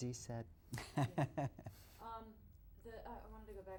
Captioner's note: laughs